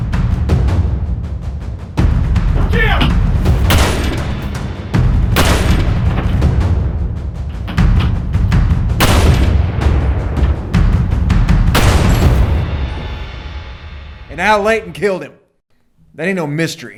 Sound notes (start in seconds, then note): 5.3 gun fires; 8.9 gun fires; 13.7 gun fires